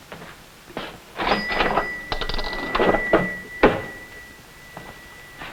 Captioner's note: register dings